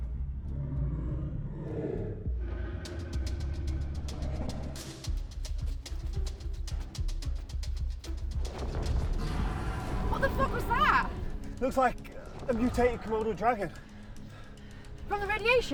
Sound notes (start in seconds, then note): 0.4 dragon growls; 6.0 dramatic music